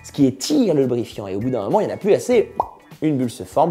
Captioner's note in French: bop